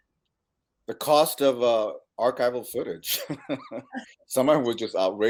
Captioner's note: chuckles